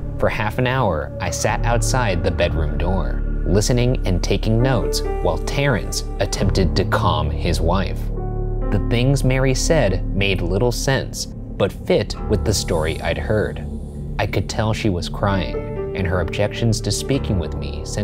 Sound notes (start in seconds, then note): none